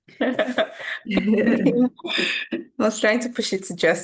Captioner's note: all laughing